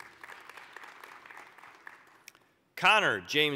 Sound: applause

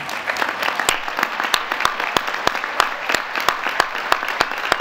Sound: applause

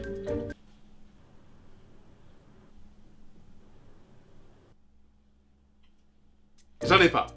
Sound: big silence

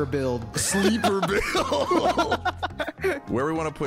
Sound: both laughing

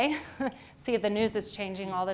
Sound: chuckles

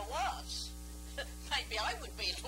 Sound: laughing

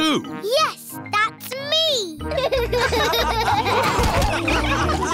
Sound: all laughing

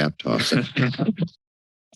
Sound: chuckles

